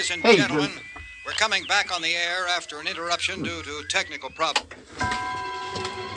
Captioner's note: radio news